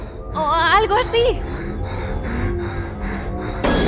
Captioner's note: hyperventilating